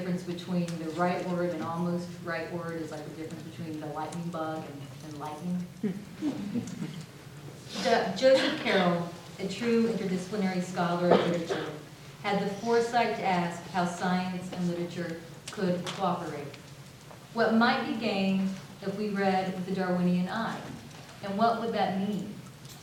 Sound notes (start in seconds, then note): 6.2 audience laughs